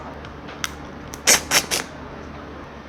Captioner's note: 3 Combo Slurp